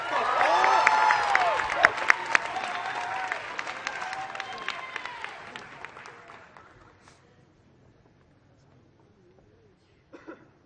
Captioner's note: applause